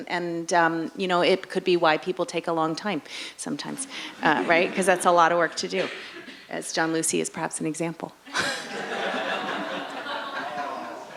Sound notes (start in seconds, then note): 4.2 audience laughing; 8.3 laughs